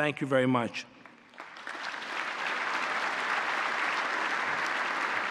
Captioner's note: applause